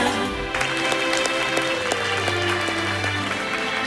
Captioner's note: clapping